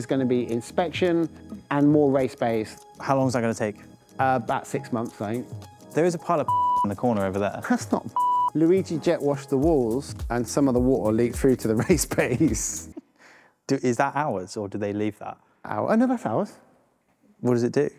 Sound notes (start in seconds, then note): 6.4 beep